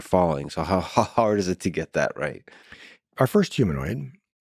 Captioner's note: laughing